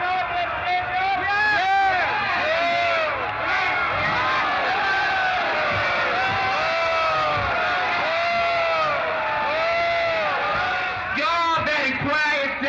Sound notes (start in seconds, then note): 4.6 shouting continues